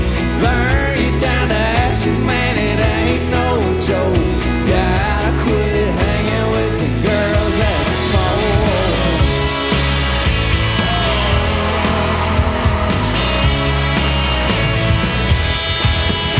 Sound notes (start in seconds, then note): 9.1 audience cheering; 9.1 rock music